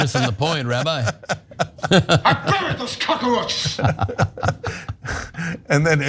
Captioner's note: laugh